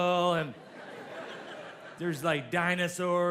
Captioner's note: audience laughs